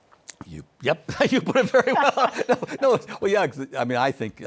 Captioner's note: chuckles